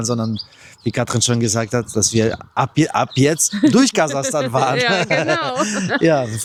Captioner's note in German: gelächter